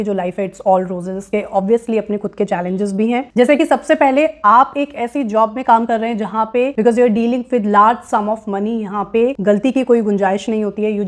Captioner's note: speaking hindi